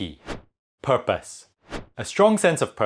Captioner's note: graphics whooshing